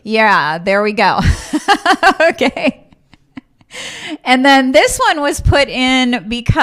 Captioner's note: laughs